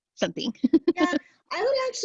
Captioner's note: laughter